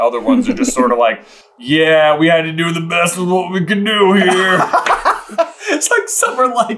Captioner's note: laughing